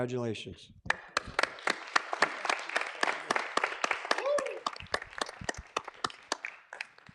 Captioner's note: clapping and cheering